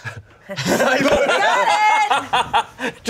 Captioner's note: everyone laughs